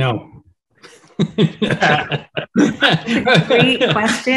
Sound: all laughing

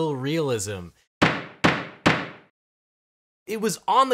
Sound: knocking

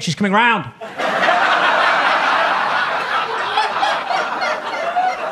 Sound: audience laughing

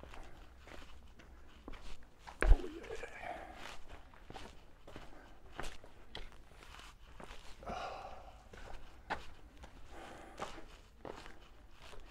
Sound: background chatter

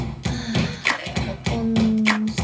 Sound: long sigh

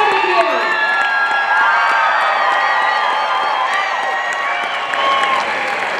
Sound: audience cheering and applauding

